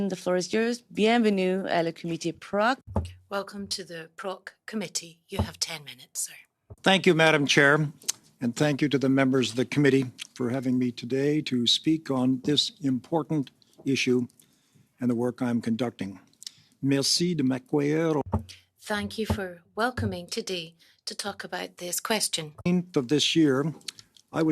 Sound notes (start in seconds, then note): 9.0 speaking in French